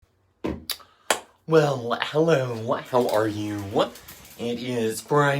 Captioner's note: thud